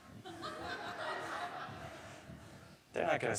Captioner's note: audience laughing